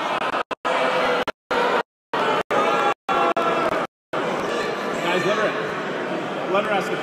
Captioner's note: crowd booing